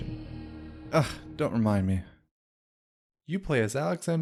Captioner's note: disgustedly